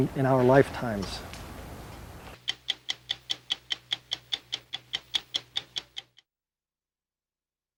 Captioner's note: ticking